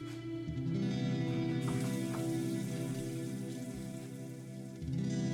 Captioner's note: faucet running